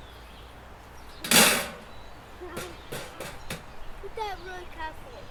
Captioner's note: banging on trash can